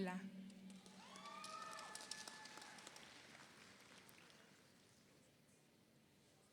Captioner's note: audience applauds; audience cheers